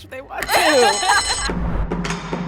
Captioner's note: bell rings; percussive music